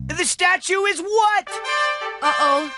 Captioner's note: horns